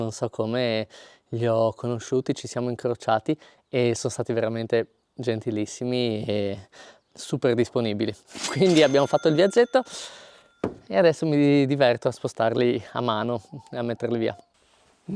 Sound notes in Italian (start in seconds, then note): 9.9 sbuffare